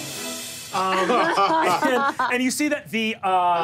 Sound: laughs

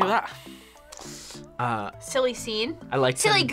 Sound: inhales

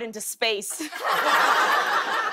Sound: laughter

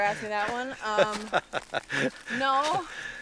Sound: laughs

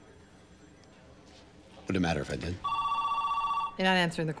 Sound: telephone ringing

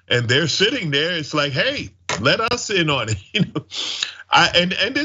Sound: laugh

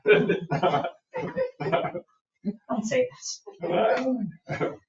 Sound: chuckles; people chuckle

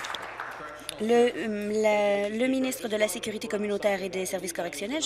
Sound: applause

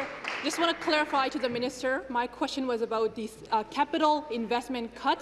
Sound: applause

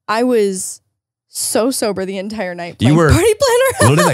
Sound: laughs

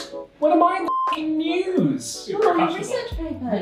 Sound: beep

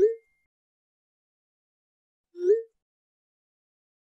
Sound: phone dings; text message whooping

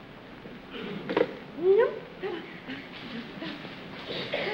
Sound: humming

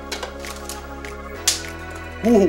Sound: snap

